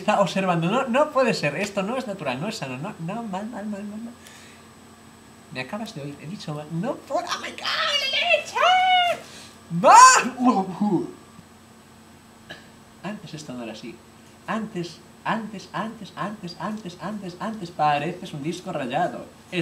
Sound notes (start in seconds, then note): 11.4 blabbering